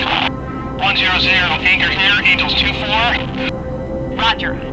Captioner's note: voiceover; voiceover